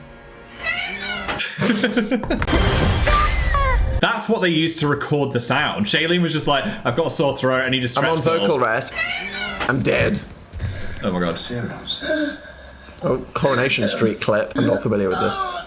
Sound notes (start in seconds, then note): 0.6 oven screeches; 1.3 Dan and Phil laugh; 3.0 Shailene Woodley screams; 8.8 oven screeches